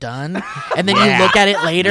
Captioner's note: laughing